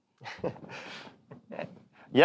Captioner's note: chuckles